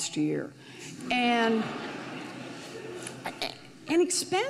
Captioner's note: audience laughs